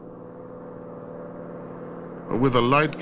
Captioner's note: machinery whirring